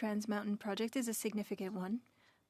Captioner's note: speaking French